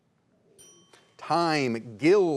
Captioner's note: bell dinging